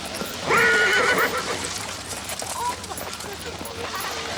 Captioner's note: horse neighs